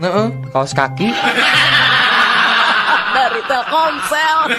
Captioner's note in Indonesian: tertawa